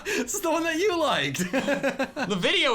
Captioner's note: laughing; laughs